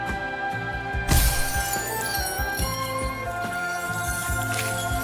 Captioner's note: jet shattering